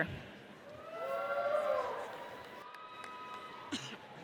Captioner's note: audience cheers